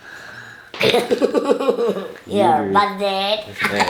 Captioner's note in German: lacht